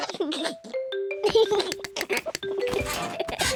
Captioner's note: giggles